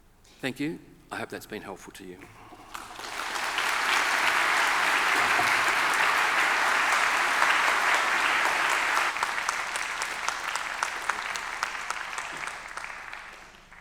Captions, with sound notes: Thank you, I hope that's been helpful to you. (audience applauding)